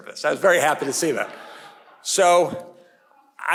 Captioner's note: audience laughing